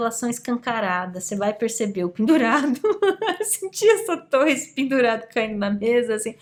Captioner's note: laughs